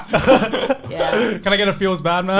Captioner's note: laughs